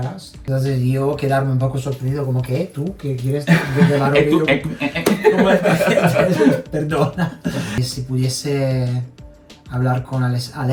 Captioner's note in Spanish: risas